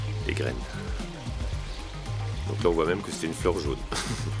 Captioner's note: laughing